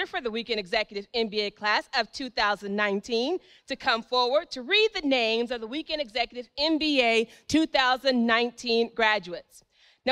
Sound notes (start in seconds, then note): none